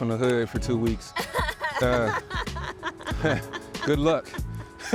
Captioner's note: laughs